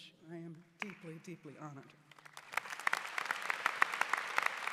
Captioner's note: applause